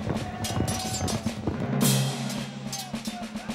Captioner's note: horses running; swords clashing